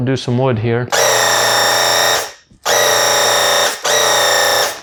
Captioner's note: paint gun blasting